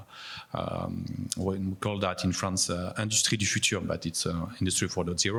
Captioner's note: speaks in foreign language